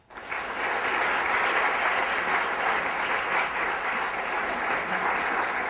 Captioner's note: applause